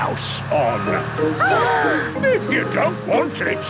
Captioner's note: children gasp